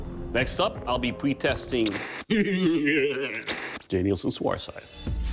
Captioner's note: laughs maniacally